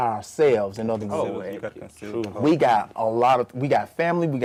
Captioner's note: others murmur in agreement